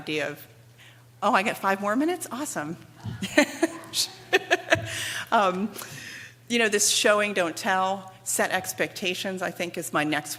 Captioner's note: laughter